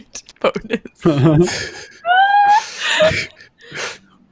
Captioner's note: laughing